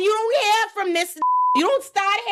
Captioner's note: beep